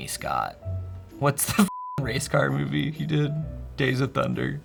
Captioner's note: beep